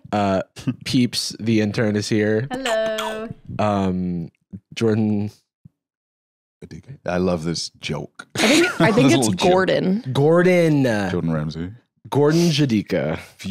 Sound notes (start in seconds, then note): 5.5 quietly